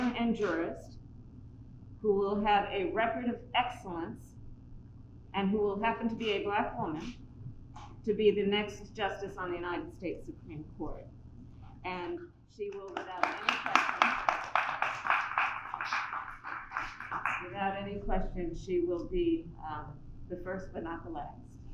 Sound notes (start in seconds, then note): 16.5 applause